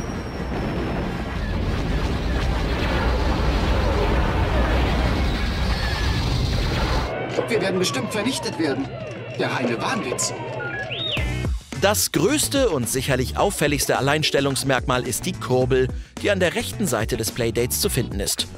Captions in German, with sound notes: "Wir werden bestimmt vernichtet werden!" "Der reine Wahnwitz." (Piepsen) Das größte und sicherlich auffälligste Alleinstellungsmerkmal ist die Kurbel, die an der rechten Seite des Playdates zu finden ist.